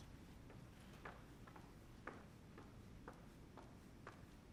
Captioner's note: footsteps